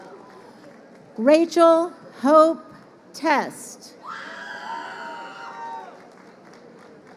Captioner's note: crowd cheering